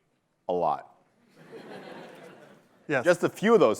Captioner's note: laughter